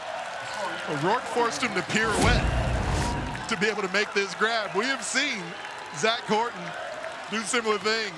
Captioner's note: cheering